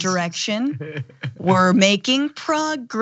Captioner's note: laugh